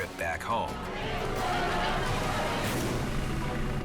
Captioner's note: immigrants chattering